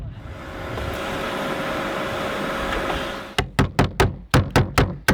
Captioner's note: vacuum humming; hammer banging